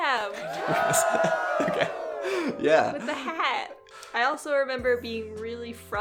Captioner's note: laughs